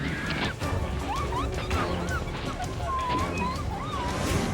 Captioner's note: driver screaming